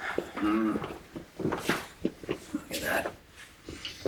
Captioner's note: grunts